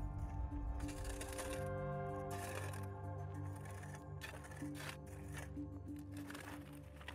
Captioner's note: gentle music; shovel scritching